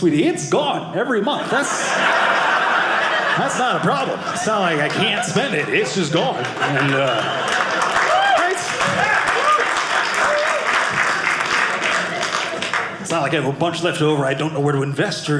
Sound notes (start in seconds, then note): 1.6 audience laughing; 6.4 audience applauding